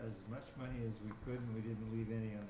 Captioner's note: talking off microphone